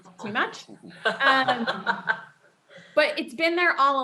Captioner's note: laughter